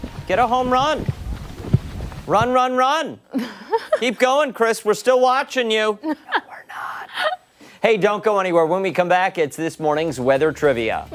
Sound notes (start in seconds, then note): 6.0 laughter